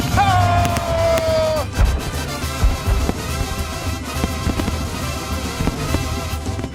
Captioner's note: crowd cheering; fireworks booming; upbeat band music